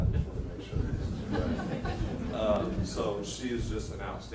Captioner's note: laughing